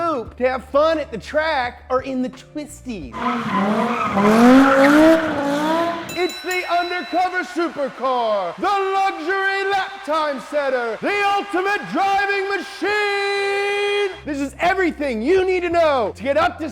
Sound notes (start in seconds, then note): 3.1 car engine revs; 3.1 tires squeal; 5.9 bell dings